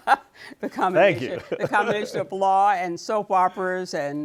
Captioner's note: laughs